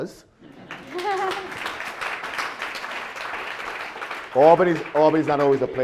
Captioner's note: audience applause